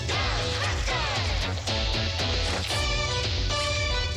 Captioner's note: roars